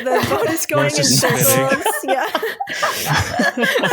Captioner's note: laughter